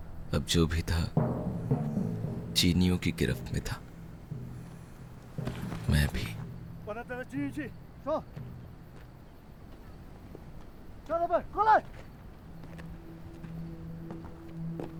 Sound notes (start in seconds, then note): 6.8 Chinese language